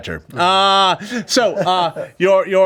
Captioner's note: laughing